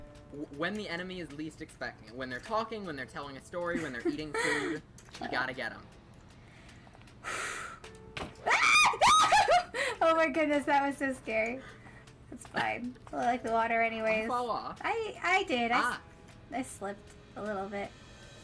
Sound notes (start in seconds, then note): 6.9 Angel Laughs; 6.9 Angel Screams